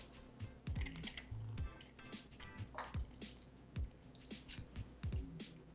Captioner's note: lemon juice drips